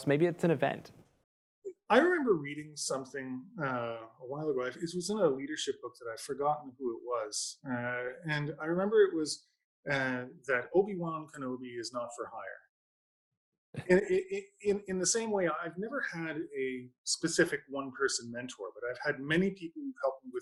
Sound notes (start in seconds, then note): 13.8 chuckles